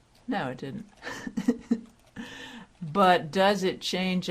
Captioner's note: laughter